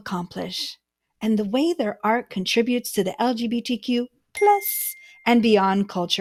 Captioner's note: ding sound